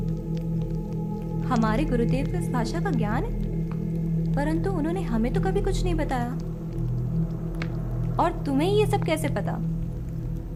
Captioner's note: shocked